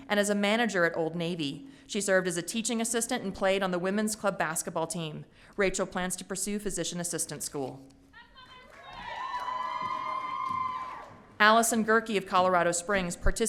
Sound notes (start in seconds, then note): 8.7 audience cheering